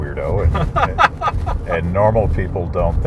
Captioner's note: laughing